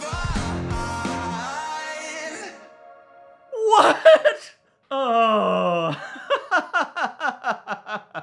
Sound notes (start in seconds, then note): 5.8 laughs